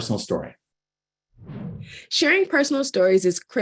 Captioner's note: air swooshing